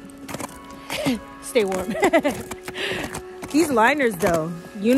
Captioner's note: laughs